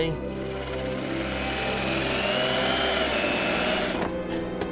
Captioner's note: sound of drill grinding into metal